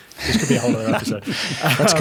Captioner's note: laughing